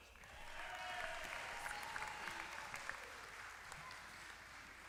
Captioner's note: applause